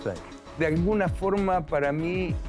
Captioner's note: Spanish